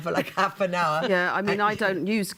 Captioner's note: laughter